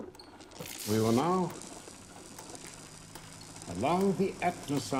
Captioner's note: electricity crackling